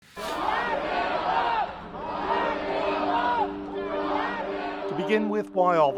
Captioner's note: crowd chants